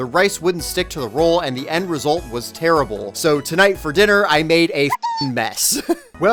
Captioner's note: Pikmin noise